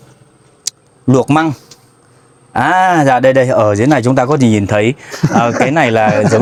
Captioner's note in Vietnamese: tiếng cười